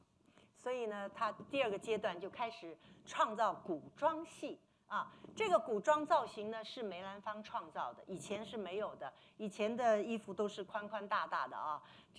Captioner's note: speaking Mandarin